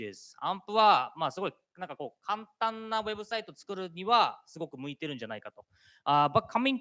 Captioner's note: speaking japanese